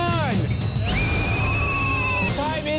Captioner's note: whistle